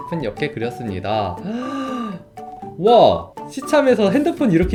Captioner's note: gasps